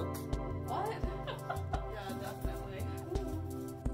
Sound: laugh

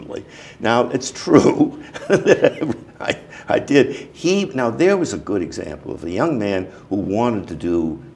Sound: laughter

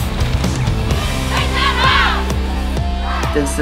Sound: cheering

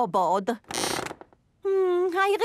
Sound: squeaks

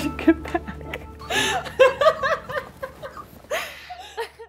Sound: laughing

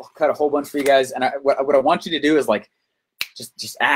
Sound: finger snap

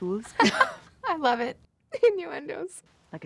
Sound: laughs

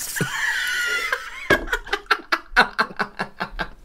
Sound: laughter Of An Accomplished Tattooist

